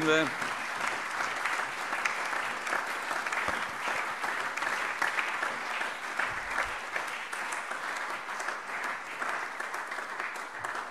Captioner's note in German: Allgemeiner Beifall